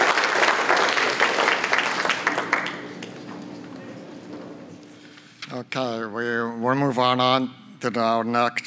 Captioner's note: applause